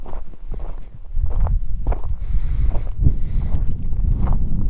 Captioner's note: wind